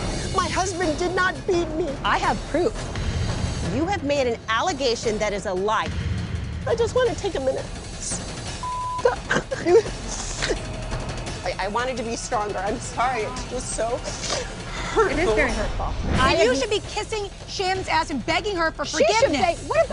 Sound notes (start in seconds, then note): 8.9 sobbing